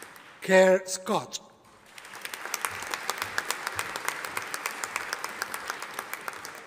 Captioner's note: audience applauding